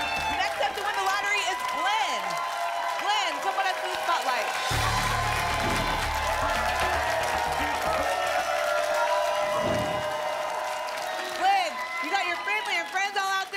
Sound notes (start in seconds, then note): 0.0 applause and cheering; 7.1 applause and cheering cont; 9.5 whoosh; 10.3 applause and cheering cont